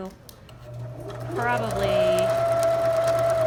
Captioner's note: sewing machine hums